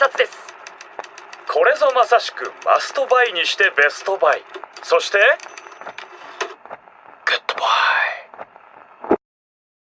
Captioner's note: whispering